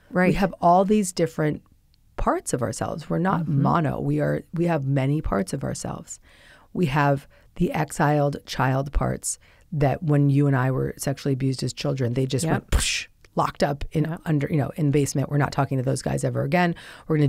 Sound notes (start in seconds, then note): 12.7 imitates explosion